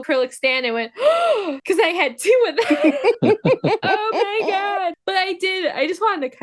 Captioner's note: gasp